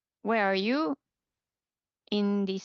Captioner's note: speaking French